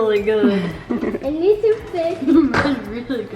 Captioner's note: laughs